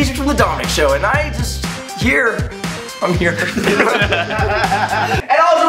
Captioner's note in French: Rires